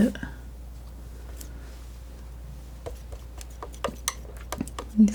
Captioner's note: tapping